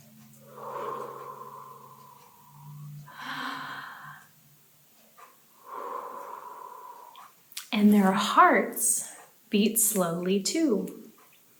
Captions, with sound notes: (slow exhale) (slow inhale) (slow exhale) and their hearts beat slowly too.